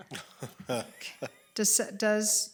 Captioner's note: laughing